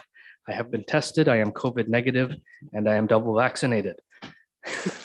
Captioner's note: laughing